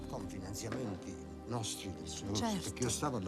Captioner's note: italian conversation